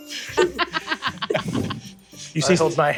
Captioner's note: laughs